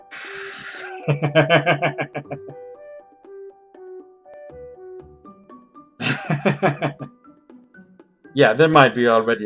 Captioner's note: laughs